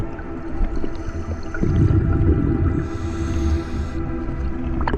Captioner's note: water flowing